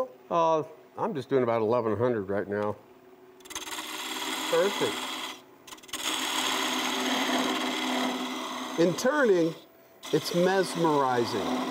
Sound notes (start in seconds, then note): 5.6 machine whirring